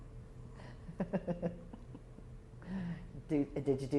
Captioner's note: laughter